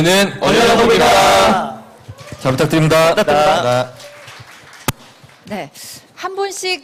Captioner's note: claps